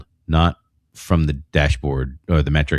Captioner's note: uh